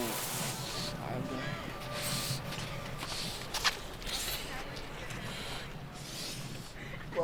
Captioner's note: breathing heavily